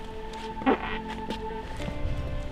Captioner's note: farts again